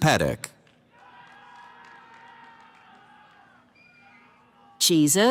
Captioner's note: cheering